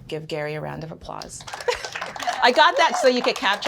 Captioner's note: applause